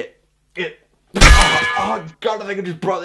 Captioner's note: anvil sound